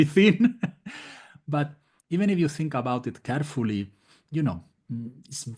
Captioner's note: laugh